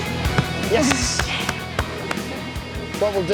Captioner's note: claps